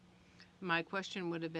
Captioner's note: speaking French